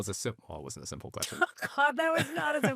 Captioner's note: chuckling